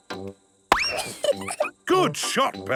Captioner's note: giggles